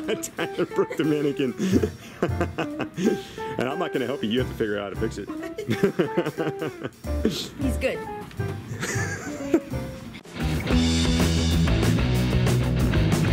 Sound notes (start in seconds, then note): 0.0 laughing; 5.4 laughing; 10.2 hard rock music